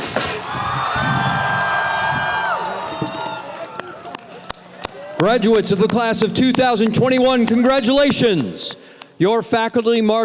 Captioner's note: cheering